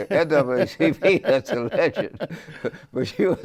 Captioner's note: laughing; laughs